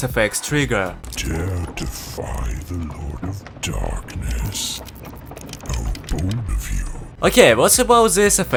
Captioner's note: robot's voice